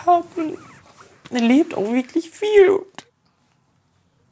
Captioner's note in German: weint